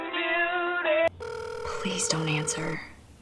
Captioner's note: phone ringing